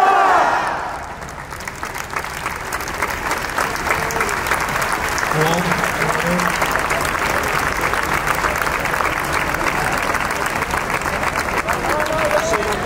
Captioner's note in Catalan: Aplaudiment